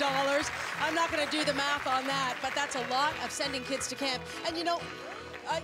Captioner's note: applause